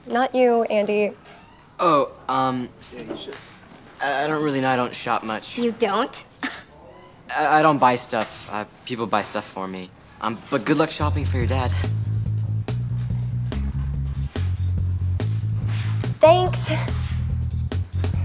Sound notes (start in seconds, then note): 7.0 scoffs